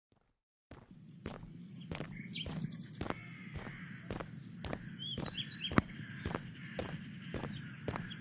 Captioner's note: birds chirping, Listener walking down sidewalk fx